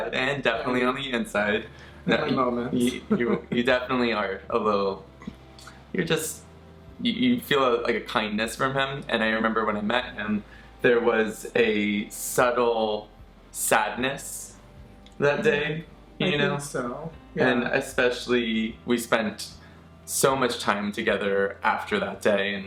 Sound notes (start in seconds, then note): 2.1 laughs